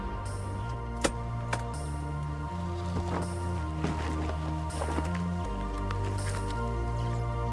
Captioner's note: gentle, electronic music; mower rattles